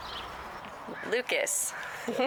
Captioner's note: birds chirping